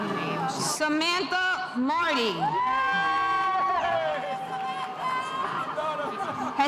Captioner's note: spectators cheering